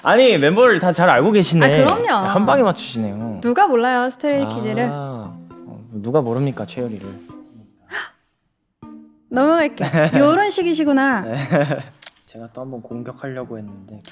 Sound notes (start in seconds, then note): 7.9 gasp